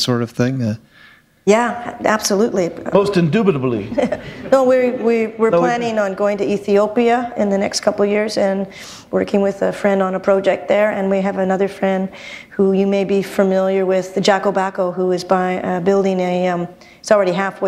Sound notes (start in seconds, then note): 3.8 laughter